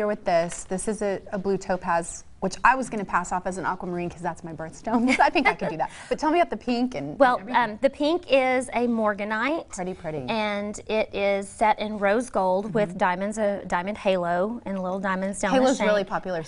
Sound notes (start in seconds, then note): 4.9 laughter